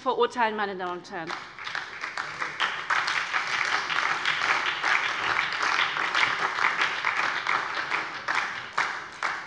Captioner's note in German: Beifall bei der SPD und der LINKEN